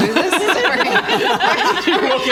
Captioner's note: chaotic laughter